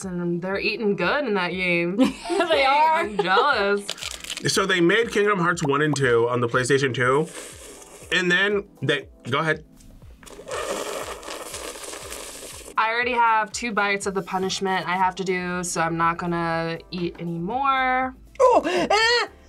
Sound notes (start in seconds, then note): 2.8 chuckles; 7.1 slurps loudly; 10.2 slurps louder